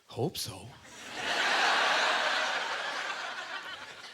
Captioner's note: audience laughter